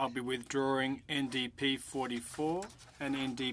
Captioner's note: speaking French